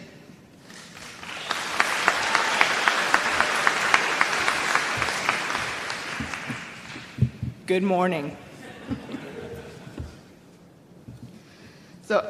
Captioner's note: applause